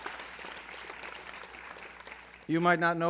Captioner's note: applause